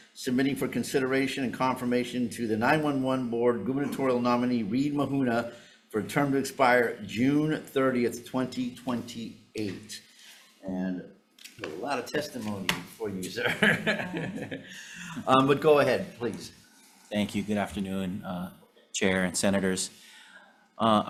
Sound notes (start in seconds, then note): 13.4 Chair chuckling